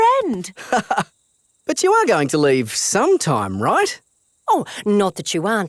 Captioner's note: laughs